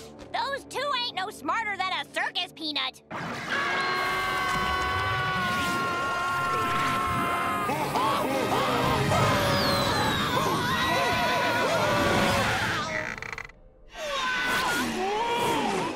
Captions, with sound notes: Those two ain't no smarter than a circus peanut. [screaming] - Oh! - Oh! [screaming] Whoa! Whoa!